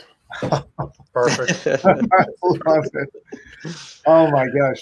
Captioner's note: all laugh